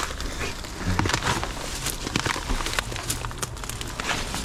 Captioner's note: leaves rustling